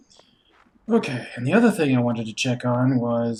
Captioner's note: sighing